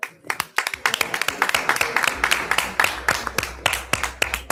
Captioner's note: everyone applauds